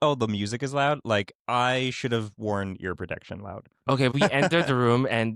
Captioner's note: hehehehe